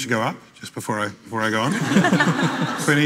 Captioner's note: panellists laughing